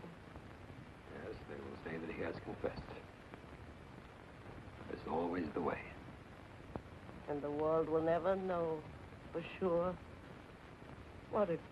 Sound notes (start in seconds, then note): none